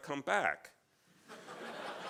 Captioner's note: laughs